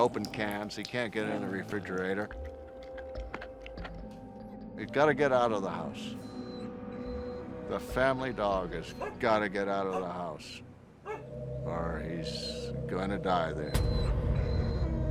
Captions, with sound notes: He can't get in the refrigerator. [crunching] He's got to get out of the house. [dog whimpers] The family dog has got to get out of the house or he's going to die there.